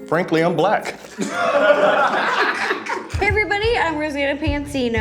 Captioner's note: laughs